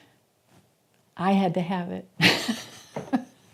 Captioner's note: laughter